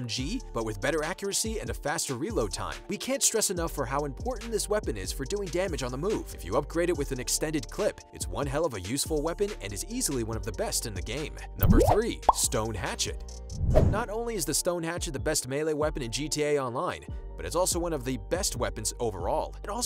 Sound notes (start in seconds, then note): 11.6 bubble popping; 13.6 whooshing